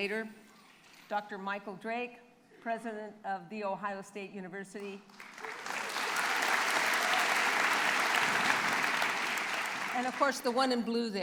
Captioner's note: applause